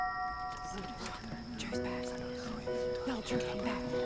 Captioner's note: whispering